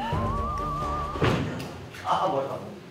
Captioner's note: thump